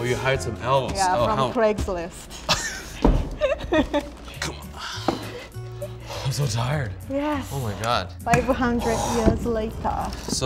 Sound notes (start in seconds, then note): 2.3 laughing